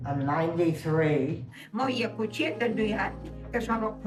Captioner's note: speaks Italian